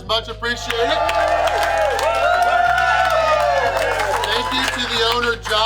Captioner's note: crowd cheering